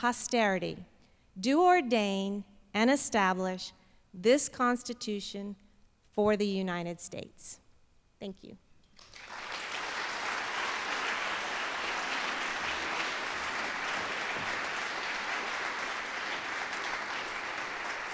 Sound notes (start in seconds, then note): 8.8 applause